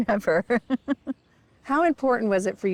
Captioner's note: laughs